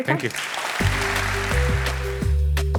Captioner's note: applause